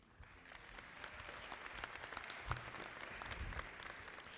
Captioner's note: audience clapping